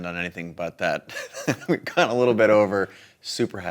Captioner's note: chuckling